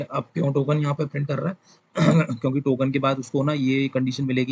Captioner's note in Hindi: गला साफ़ करने की आवाज़